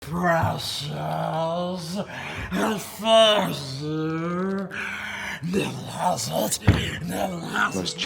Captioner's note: Making Gollum noises